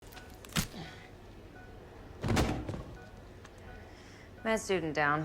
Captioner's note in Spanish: monitor pitido; ruido de objetos